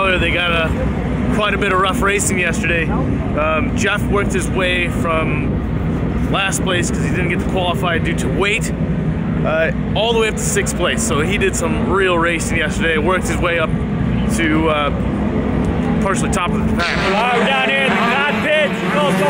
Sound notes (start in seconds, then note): 17.1 static sound